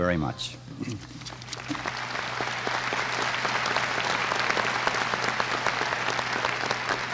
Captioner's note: applause